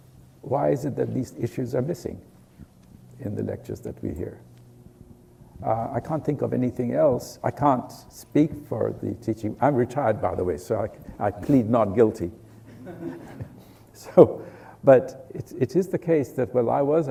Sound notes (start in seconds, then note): 12.6 laughs; 12.6 laughter